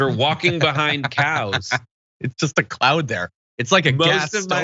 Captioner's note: laugh